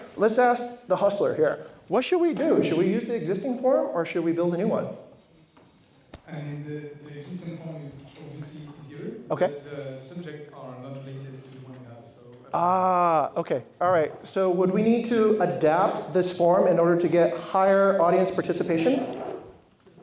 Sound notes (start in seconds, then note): none